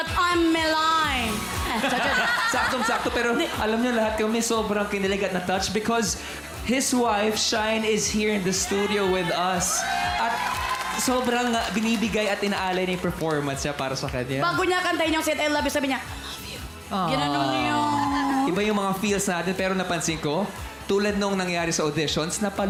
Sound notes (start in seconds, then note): 9.6 applause; 16.3 whispers